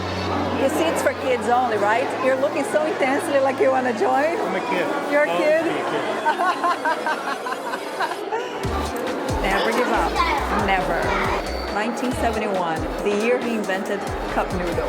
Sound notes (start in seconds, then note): 5.9 laughs